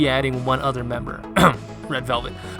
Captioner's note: clears throat